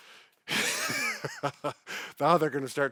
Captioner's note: both laughing